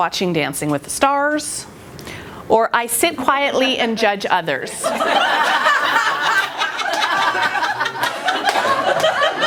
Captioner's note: laughter